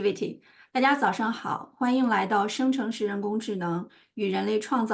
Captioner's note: speaking in Chinese